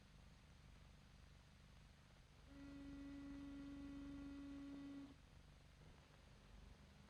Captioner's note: car horn honks